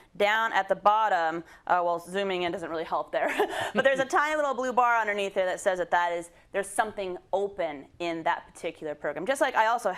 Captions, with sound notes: because it's got that little kind of blue bar down at the bottom. Well zooming in doesn't really help there. [LAUGH] -[LAUGH] -But there's a tiny little blue bar underneath there that says that that there's something open in that particular